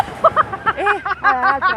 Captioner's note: laughs